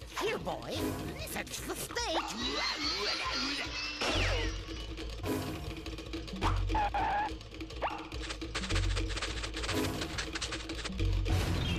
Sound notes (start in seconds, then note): 6.9 skidding